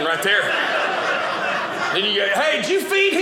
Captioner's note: audience laughing